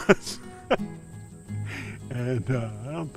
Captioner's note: laughing